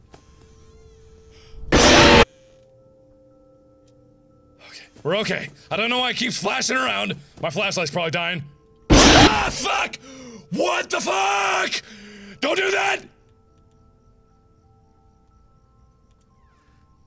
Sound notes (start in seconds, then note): 9.0 woof; 11.8 deep breaths